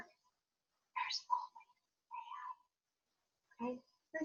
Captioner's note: whispering